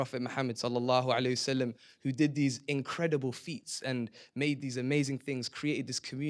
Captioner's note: non-english